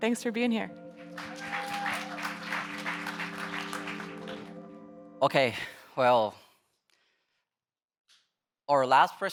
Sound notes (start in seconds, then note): 0.0 gentle electronic music; 0.8 audience members applauding